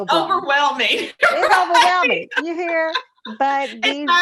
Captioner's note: laughs